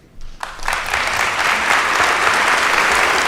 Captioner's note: applause